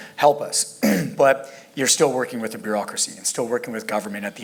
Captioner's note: cough